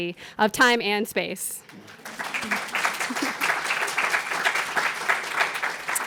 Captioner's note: applause